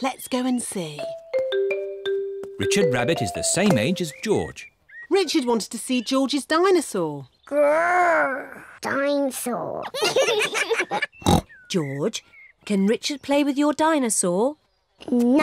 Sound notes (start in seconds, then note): 7.7 roars; 9.9 both laugh